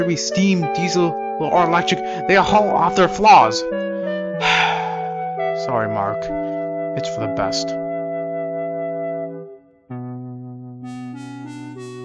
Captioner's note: sighs